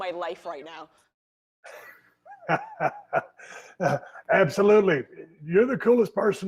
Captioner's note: laughs